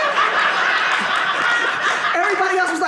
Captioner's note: audience laughing